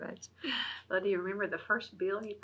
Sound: laughs

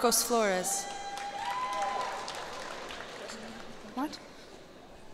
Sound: cheers and applause

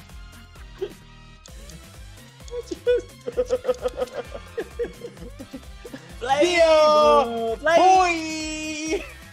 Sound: laugh

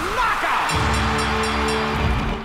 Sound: cheering

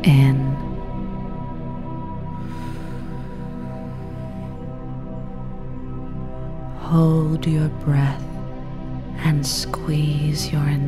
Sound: inhale

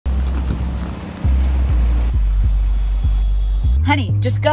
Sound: car pulling to stop

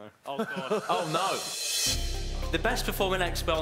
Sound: laughing; intense music

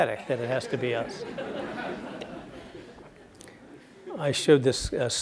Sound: laugh

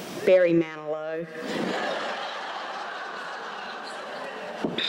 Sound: laughter

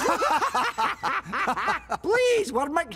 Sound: laughing

